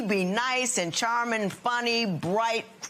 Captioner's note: none